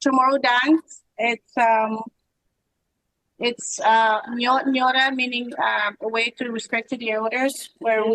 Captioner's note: foreign language